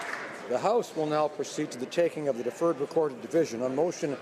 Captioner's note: applause